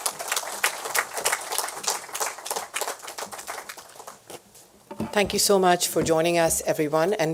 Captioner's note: applause